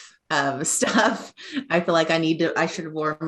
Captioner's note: laughing